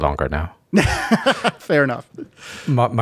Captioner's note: laughing